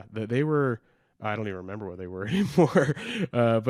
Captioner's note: laughs